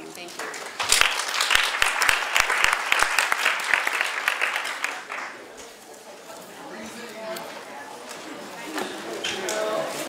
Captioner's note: audience applause